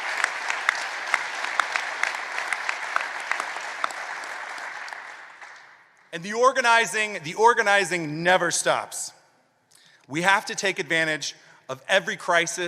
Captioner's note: applause